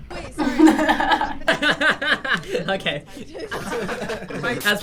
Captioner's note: laughs